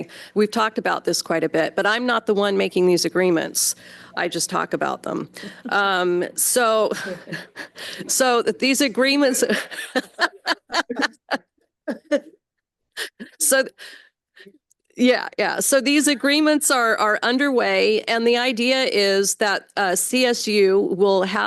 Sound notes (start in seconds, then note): 9.4 laughter